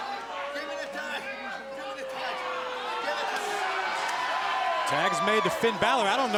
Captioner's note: crowd chatter